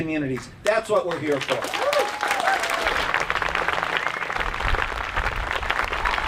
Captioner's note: clapping and cheering